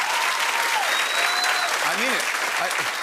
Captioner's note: cheers and applause